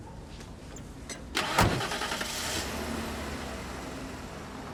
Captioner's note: engine starts